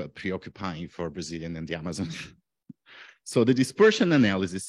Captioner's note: chuckles